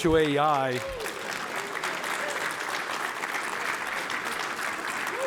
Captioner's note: applause